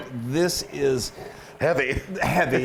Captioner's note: laugh